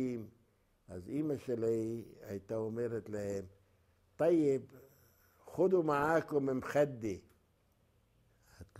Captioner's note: Arabic